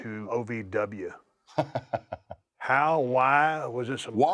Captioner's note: laugh